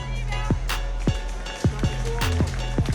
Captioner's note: cheering, applause